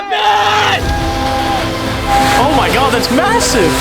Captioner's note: majestic music; tarp flutters